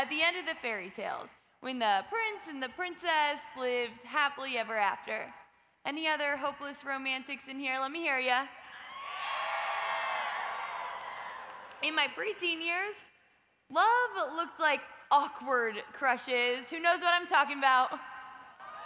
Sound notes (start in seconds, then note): 8.8 audience cheers; 18.6 audience cheers